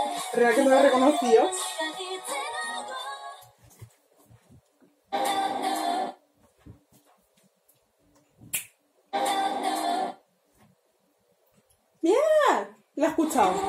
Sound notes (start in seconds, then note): 8.5 snaps